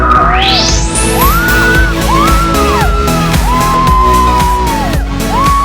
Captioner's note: ladies screaming